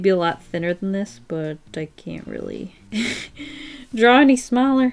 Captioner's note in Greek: Γέλια